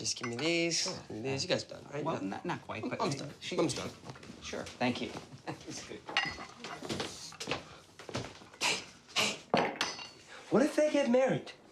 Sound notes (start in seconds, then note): 7.2 laughs